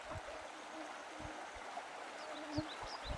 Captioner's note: mosquitos buzzing